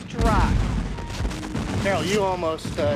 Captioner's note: cannons blasting